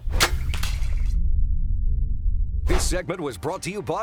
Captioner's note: arrow firing